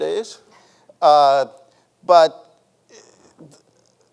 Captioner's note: chuckles